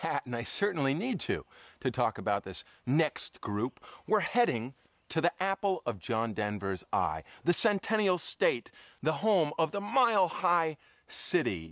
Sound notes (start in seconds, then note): none